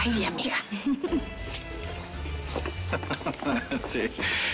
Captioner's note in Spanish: Risas